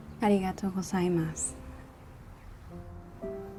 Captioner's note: speaks japanese